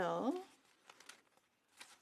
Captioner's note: speaking French